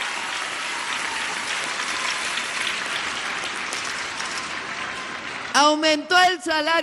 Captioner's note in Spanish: aplausos